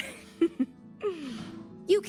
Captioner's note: chuckles